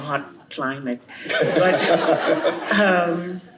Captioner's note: laughter